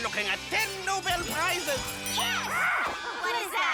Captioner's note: people screaming outside